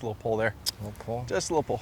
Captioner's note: smacks Lips